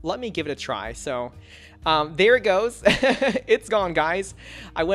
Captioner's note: laughs